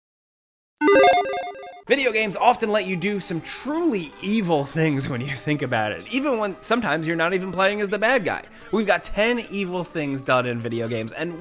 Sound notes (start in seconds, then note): 0.8 electronic beeping